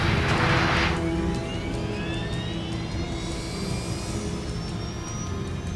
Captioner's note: sinister music; humming